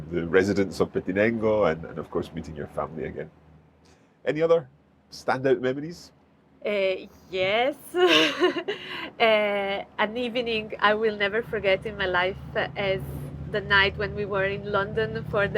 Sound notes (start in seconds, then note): 8.0 chuckles